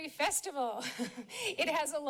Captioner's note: laughs